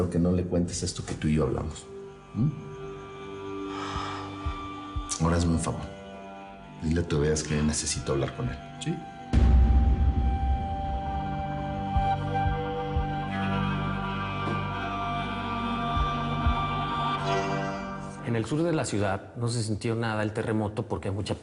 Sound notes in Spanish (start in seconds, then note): 3.6 Suspiros